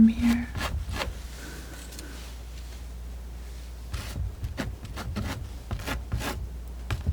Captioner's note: tapping